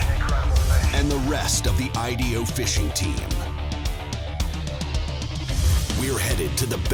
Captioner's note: voiceover